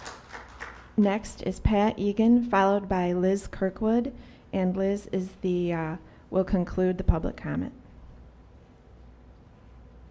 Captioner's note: applause